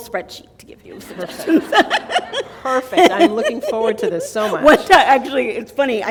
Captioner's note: laughter